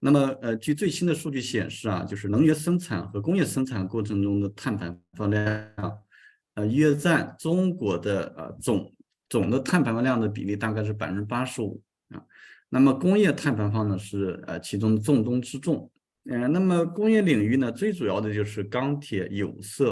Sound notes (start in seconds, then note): 0.9 continues to speak in Chinese